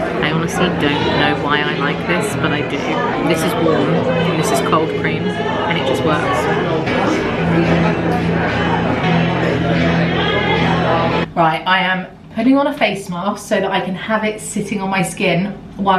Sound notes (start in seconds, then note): 7.1 light music; 7.1 people chattering